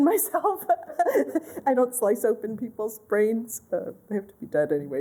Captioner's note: laughter